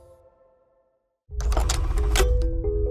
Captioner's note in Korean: 다이얼 소리